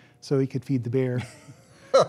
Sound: laughter

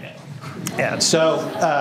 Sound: laughter

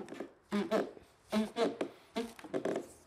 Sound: squeaking

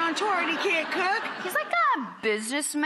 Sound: audience laughing

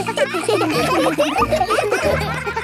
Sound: children laughing

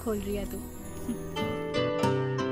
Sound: chuckles

